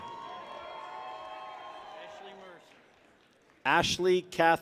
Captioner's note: people cheer